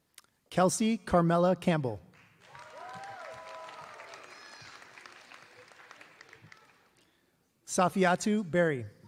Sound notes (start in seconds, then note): 2.1 applause